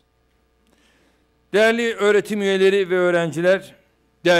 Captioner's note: non-english speech